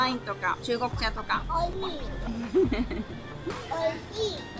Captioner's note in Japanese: 笑い